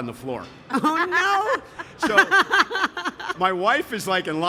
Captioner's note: laughing